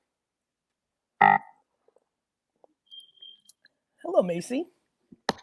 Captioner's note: buzzer buzzes